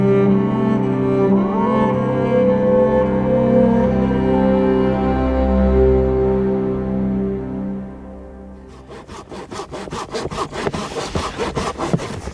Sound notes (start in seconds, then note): 2.0 animal howling; 8.6 saw scratching